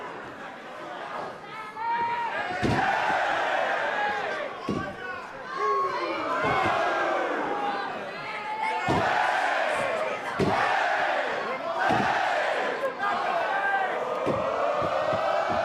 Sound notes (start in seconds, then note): 4.6 cheers & applause